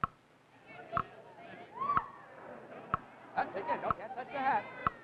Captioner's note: clock ticking; audience yelling